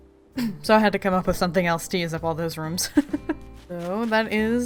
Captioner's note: laughs